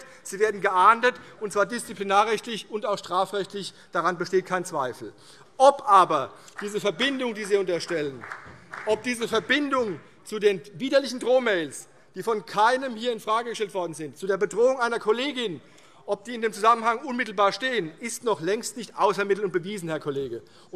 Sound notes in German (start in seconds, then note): 6.4 Beifall CDU